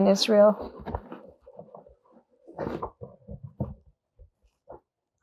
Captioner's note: pauses 12 seconds